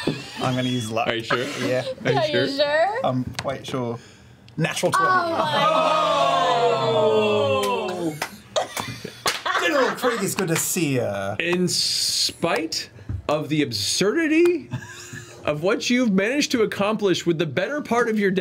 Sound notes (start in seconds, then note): 1.2 laughs; 7.0 all cheer